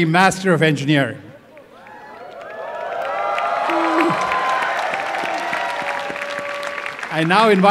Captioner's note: applause and cheering